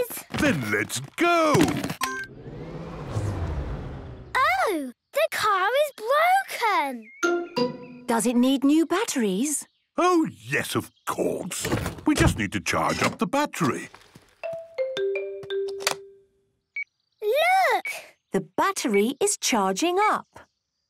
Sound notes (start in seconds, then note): 2.0 car chimes; 2.0 whirring, whirring stops; 15.6 clicks; 16.8 meter beeping